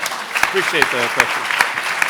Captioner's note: applauding